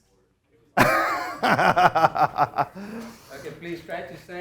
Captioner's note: laughing